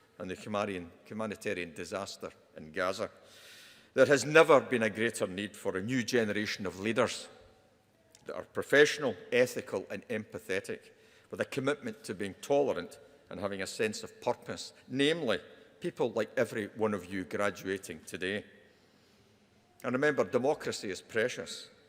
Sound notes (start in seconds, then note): none